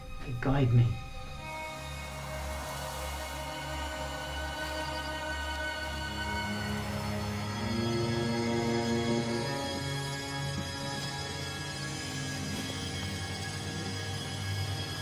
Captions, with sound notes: They guide me. (wind blowing in the crops) (eerie orchestral music)